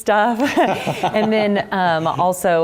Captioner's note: laugh